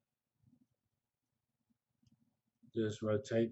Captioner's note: pause